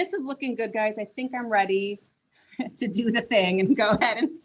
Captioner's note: laughs